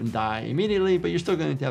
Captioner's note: picture popping